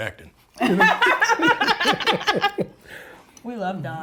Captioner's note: both laugh